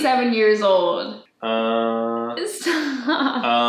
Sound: laughs

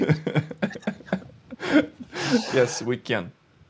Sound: laughs

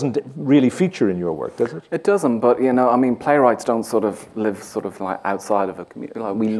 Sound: none

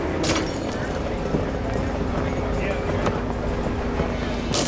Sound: glass shattering

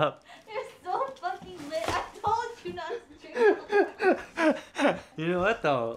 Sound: laughing

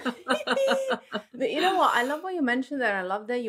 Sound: laughing

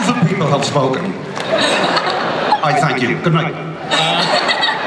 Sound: laughter

